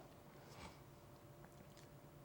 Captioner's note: none